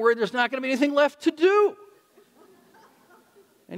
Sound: audience laughing

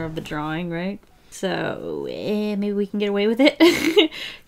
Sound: laughs

